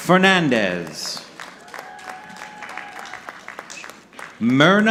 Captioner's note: audience clapping